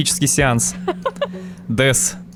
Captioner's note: laughter